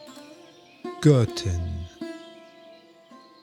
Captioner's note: german